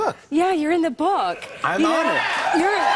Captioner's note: cheers and applause